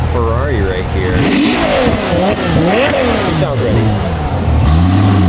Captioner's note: car engine revving